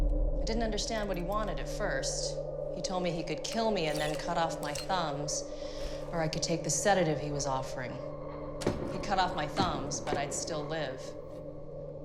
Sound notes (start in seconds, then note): none